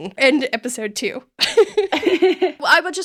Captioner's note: both laughing